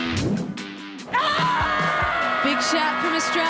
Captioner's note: cheering